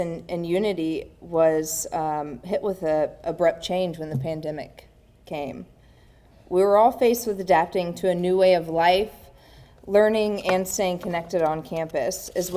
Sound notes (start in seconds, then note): none